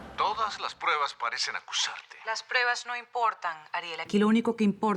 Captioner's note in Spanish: Voz de Ariel